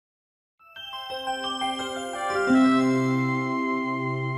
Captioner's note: bright sound effect